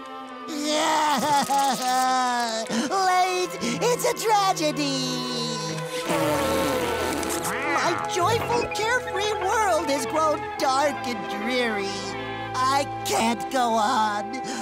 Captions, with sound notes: [crying] Late. It's a tragedy. [blowing nose] My joyful, carefree world has growed dark and dreary. I can't go on.